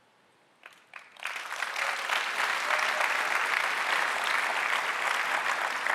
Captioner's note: audience applauding